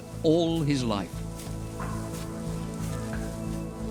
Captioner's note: straw rustling